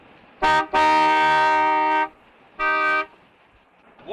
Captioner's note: horn honking